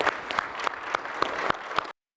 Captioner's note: applause